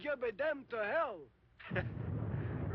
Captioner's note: laughs